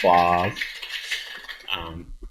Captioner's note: applause